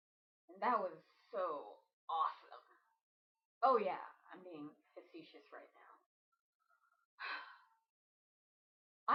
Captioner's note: sigh